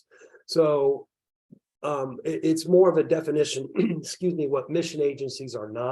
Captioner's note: clears throat